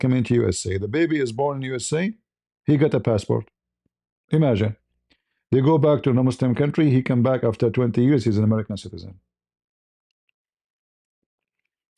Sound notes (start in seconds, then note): none